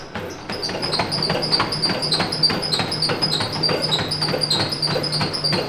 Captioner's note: gallop